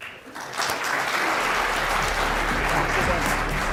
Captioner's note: applause